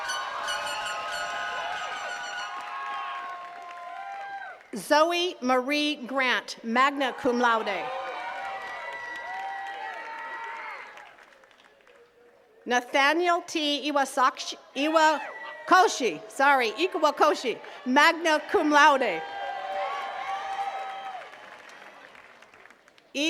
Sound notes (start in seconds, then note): 0.0 attendees cheering and clapping; 6.9 attendees cheering and clapping; 19.5 attendees cheering and clapping